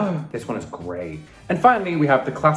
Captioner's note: gasps